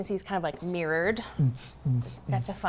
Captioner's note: making disco noise